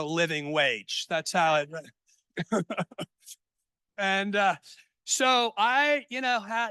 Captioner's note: laughs